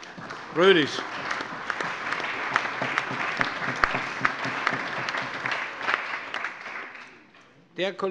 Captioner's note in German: Allgemeiner Beifall